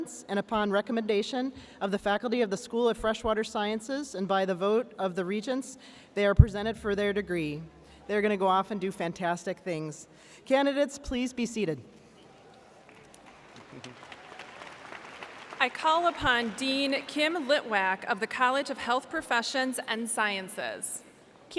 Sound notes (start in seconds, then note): 12.8 audience applauding